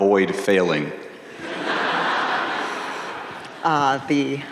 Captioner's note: audience laughing